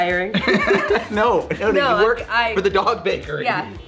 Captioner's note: laughing